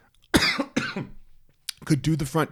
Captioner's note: coughs